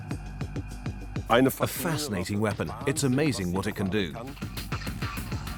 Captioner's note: dubbed in English